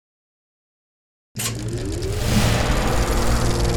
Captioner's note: film projector whirring